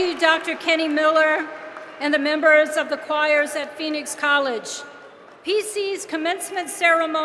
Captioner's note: applause